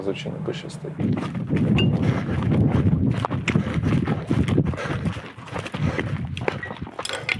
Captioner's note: running and heavy panting